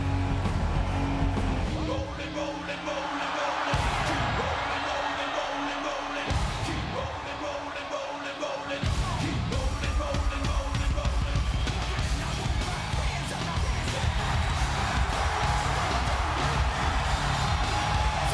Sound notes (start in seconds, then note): 0.1 energetic rock music; 15.1 crowd cheering